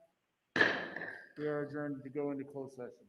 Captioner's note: bang